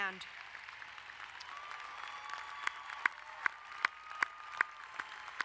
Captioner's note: crowd applauding and cheering